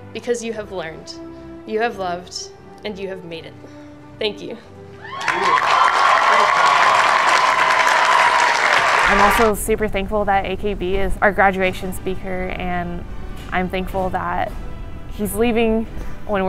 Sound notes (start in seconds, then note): 5.0 everyone applauds